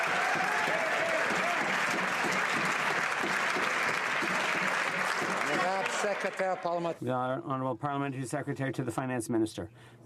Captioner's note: some Applause